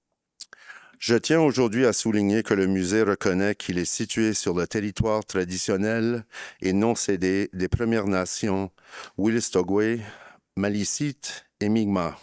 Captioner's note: speaking in French